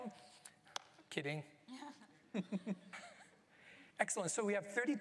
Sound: laughter

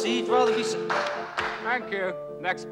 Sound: man clapping

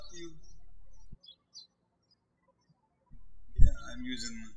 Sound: birds chirping

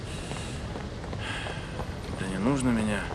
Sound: sighs

